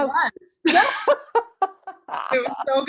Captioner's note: laughter